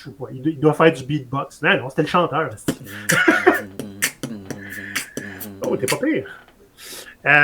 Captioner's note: mouth noises